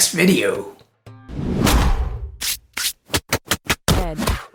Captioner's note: logo whooshing